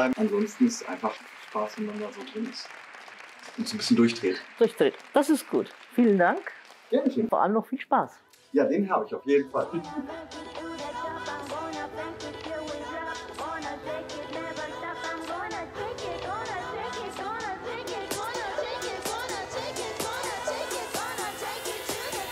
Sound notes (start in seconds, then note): 0.0 applause; 2.6 applause; 6.2 applause; 9.7 laughter